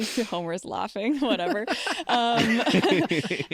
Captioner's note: laughter